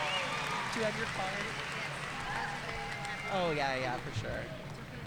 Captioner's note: audience cheering and applauding; speaking faintly off mic